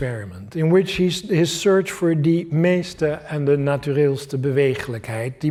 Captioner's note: non-english speech